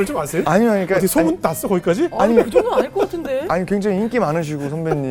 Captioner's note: laughing